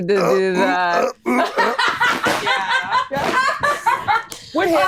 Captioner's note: laughing